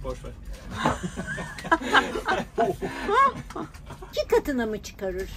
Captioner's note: laughter